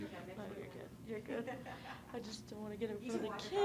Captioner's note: woman laughing